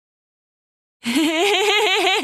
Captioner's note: laughter